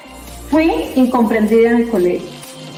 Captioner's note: foreign language 00:39:29